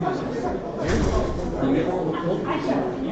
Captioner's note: crowd chatter